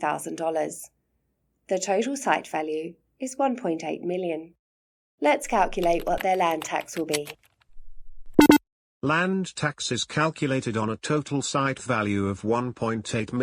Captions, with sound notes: The total site value is $1.8 million. Let’s calculate what their land tax will be. [typing sound] [computerised beep sound] Land tax is calculated on a total site value of $1.8m.